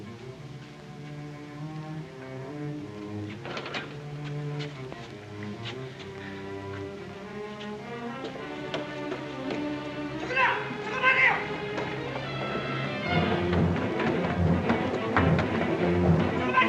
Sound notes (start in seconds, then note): 0.0 soft ominous music; 10.2 police yelling in Japanese; 13.3 suspenseful music